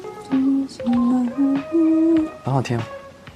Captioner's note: humming